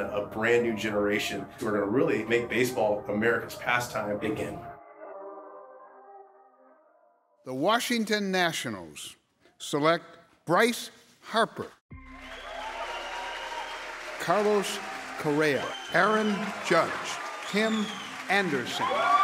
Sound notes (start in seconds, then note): 12.0 audience cheers